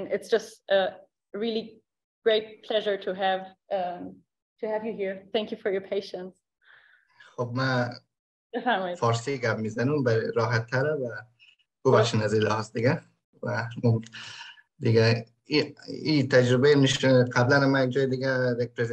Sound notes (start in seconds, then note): 7.4 speaks in Dari